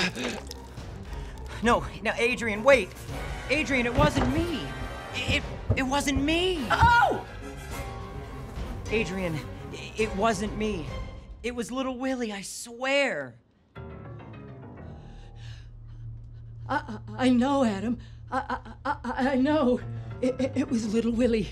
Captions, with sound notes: No, Adrian wait, Adrian it wasn't me. It wasn't me. (Adrian screams) Adrian, it wasn't me. It was little Willy, I swear. - I know Adam, I know it was Little Willy.